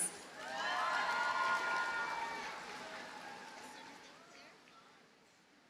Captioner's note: audience cheers and applauds